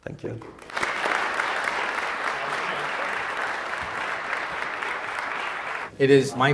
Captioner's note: applause